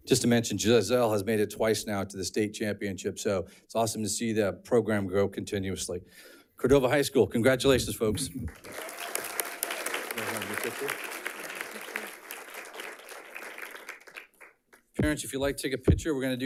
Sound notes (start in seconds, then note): 8.3 audience clapping and cheering